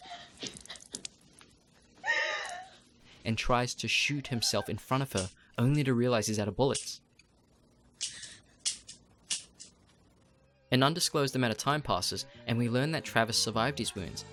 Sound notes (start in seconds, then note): 7.1 empty gun clicking